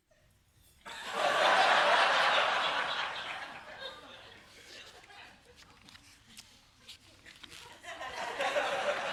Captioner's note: laughter